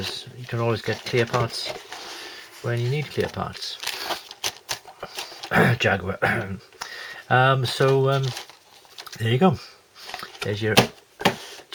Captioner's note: cough Jaguar